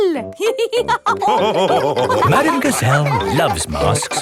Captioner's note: all laughing